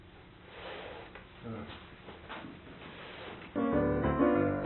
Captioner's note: softly grunts; upbeat piano music